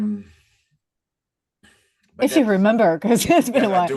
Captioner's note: laughs